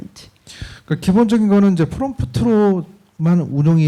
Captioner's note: speaking korean